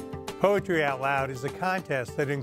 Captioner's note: voiceover